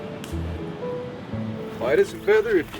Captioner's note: footsteps crunching